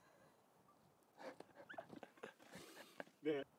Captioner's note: laughs